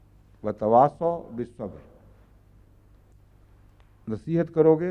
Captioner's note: Arabic